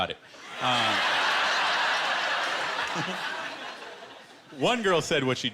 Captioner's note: laughter